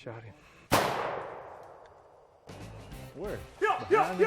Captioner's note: gun shot; shouting